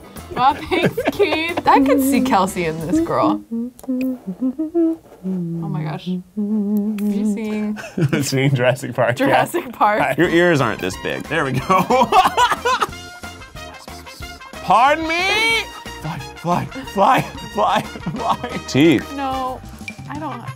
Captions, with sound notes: - Aw thanks, Keith. I can see Kelsey in this girl. (humming) Oh my gosh. Are you singing? - That's Jurassic Park-- - Jurassic Park? - Your ears aren't this big. There we go (laughs). Pardon me! Fly, fly, fly, fly, fly. Teeth. - No, I don't--